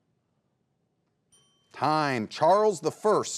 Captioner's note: bell dings